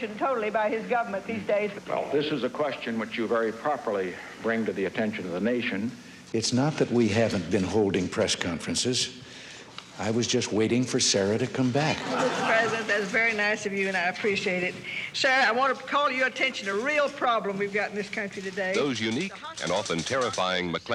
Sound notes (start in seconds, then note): 11.9 audience laughing